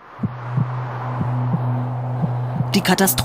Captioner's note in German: Töne des Herzklopfens